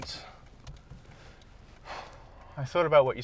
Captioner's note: exhaling